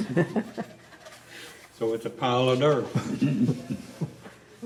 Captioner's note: laughter